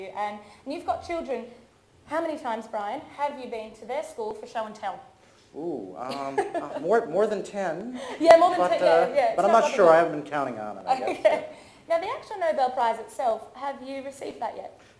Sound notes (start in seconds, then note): 6.0 presenter laughs; 11.4 laughs; 14.5 laughs